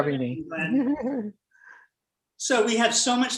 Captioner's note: laughs